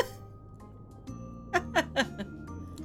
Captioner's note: laughs